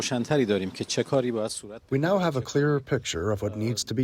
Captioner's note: through translator